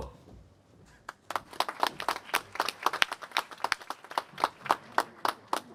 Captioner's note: applause